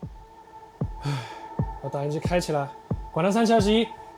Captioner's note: sigh